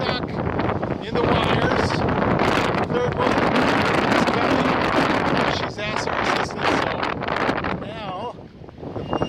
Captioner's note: wind noises